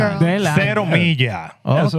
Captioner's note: speaking Spanish